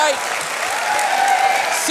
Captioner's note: cheering, applause